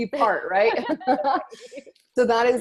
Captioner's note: both laughing